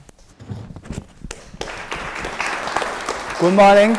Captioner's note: applause